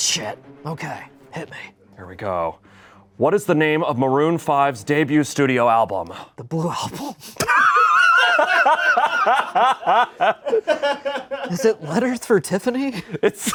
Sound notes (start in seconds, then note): 7.4 laughs; 7.4 everyone laughs